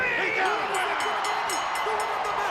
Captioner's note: bell ringing; crowd cheering